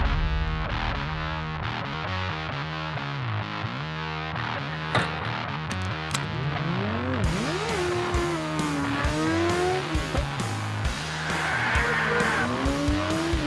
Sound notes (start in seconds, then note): 0.2 rock music; 5.6 engines roaring